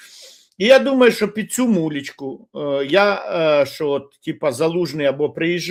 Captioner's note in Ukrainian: сопіння